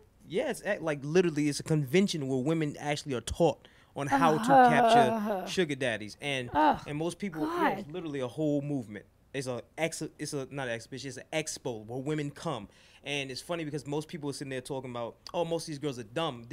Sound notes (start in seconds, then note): 0.1 voiceover; 5.1 groans